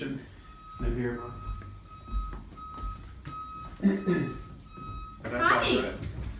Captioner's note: reversing truck beeping